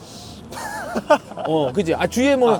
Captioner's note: answering with laughter